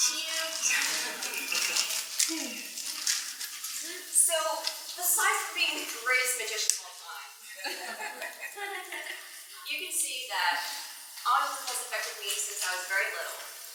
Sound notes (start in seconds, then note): 7.5 laughs